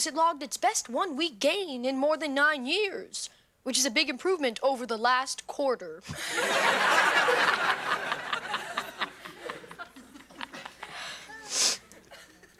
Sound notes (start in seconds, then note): 6.1 audience laughing; 7.2 Ethan laughs